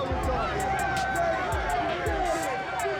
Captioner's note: cheering